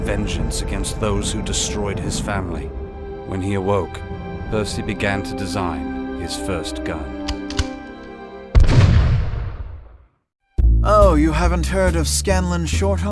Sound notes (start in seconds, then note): 8.5 gunshot